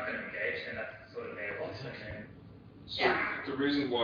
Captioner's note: audio distorts